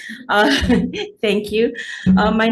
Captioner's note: laughing